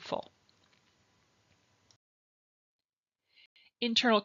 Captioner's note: silence